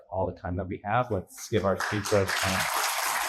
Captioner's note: clapping